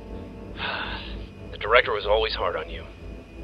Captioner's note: sighs